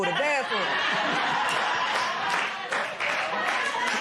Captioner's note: laughter and applause